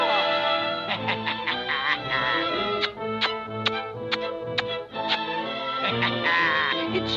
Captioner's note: vizier cackling; kissing smacks